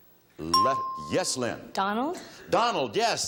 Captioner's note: bell chimes